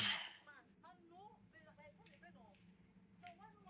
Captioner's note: neigbours talking